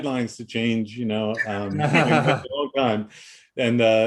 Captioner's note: laughing